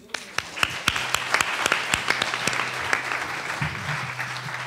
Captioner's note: attendees applauding